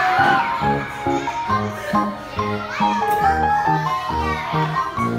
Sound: children chatting and laughing together

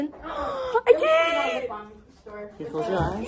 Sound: gasp

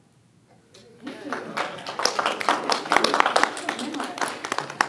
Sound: applause

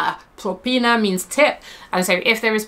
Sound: speaks in foreign language

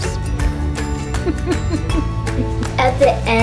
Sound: laughing

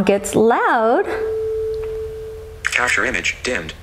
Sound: ringing sound

